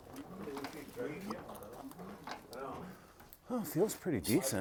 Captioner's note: background chatter